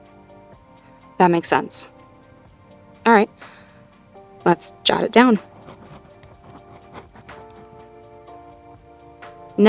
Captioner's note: writing sounds